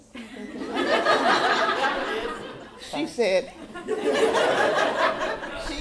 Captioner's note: laughter